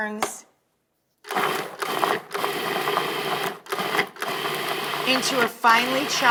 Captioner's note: food processor hums